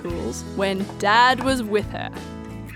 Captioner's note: wood knocking